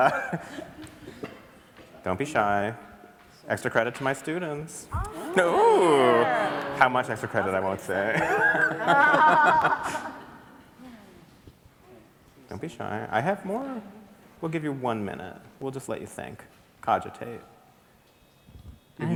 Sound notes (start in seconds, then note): 0.0 everyone chuckles; 5.0 laughs; 7.8 everybody laughs